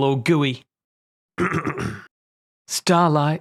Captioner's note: throat clears